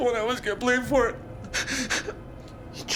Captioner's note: sobbing